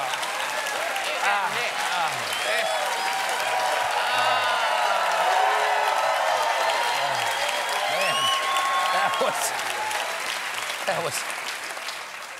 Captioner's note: cheers and applause